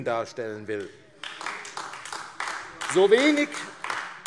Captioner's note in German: Beifall AfD